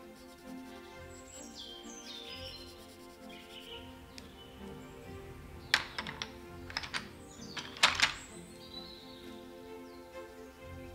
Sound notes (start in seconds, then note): 0.1 playful string music; 4.6 birds singing cheerfully